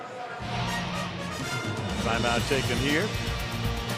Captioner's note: pa announcement